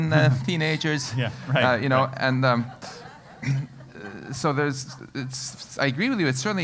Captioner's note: laugh